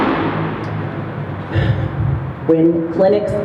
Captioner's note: sighs